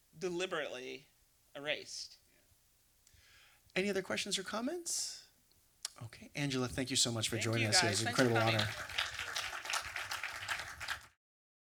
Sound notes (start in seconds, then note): 10.7 applause